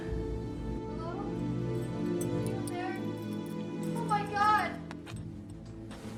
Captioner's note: Emily yelling offscreen